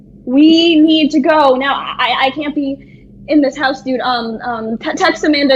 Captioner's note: low whooshing sound under dialogue